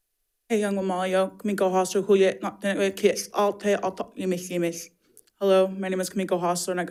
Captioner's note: speaks in foreign language